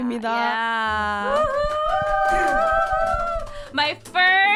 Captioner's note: cheers